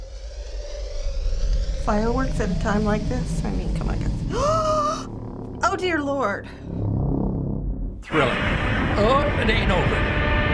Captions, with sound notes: Fireworks at a time like this? I mean, come on, guys. (gasps) Oh dear Lord! Thriller. OH! It ain't over.